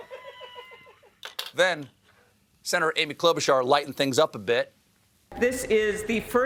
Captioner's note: laughter